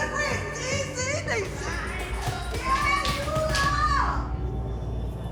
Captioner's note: speaking spanish